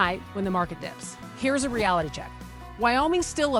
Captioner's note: text whooshing